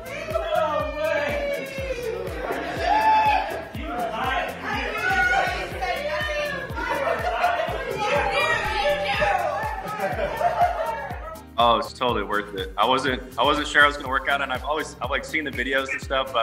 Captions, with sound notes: - No way. (people chattering) - You knew, you knew. - Oh! It was totally worth it. I wasn't, I wasn't sure it was gonna work out. And I've always like seen the videos and stuff,